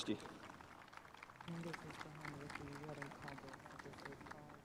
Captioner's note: spectators applauding